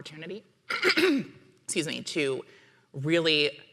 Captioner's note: clears throat